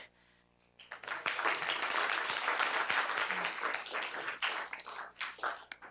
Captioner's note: applause